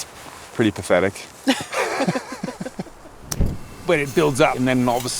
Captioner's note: both laughing